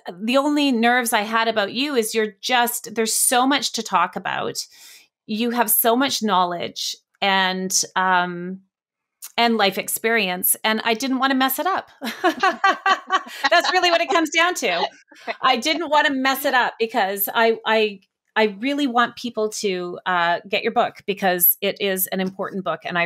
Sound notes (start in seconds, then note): 12.0 both laugh